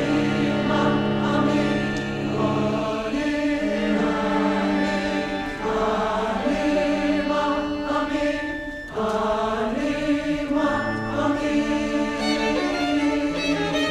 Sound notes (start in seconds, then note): none